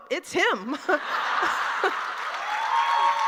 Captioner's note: laughter